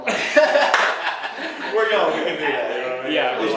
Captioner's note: laughs